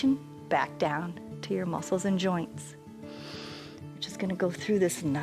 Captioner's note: inhales